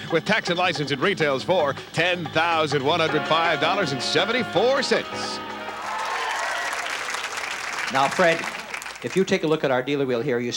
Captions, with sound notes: with tax and license, it retails for $10,105.74. (applause) Now, Fred, if you take a look at our Dealer Wheel here